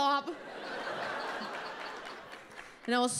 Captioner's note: audience laughs